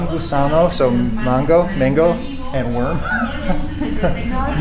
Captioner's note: laughs